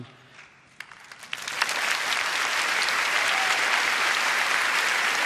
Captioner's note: audience applauding